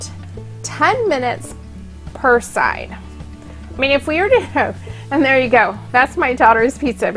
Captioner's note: giggle